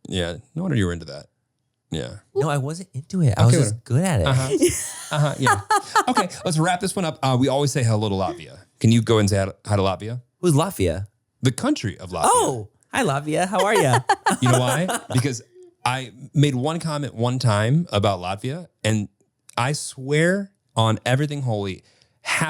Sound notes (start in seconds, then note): 4.2 laughs; 13.4 laughs